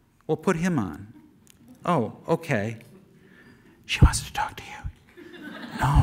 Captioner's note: whispering; audience laughter; as Andrew, whispering